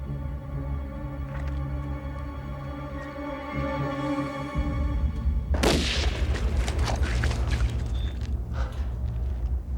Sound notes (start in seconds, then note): 5.6 gun fire